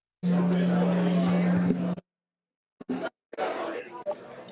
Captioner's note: audience chattering